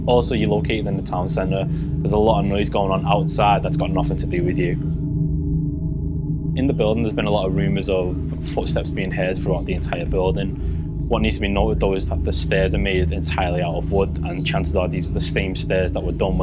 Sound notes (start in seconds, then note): none